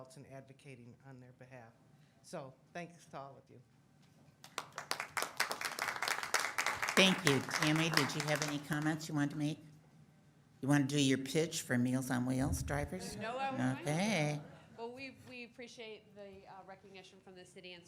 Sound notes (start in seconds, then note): 4.4 audience applauds